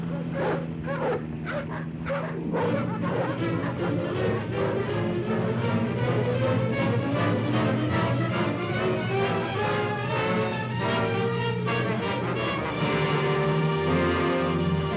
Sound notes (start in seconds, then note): 0.0 dogs barking; 2.5 suspenseful music; 12.8 dramatic music